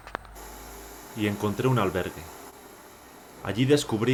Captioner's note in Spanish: Voz en off